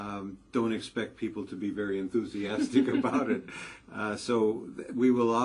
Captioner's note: laugh